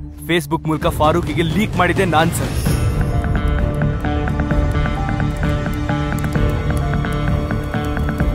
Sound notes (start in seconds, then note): 6.0 typing sound